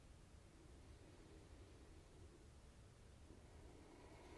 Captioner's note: deep breathing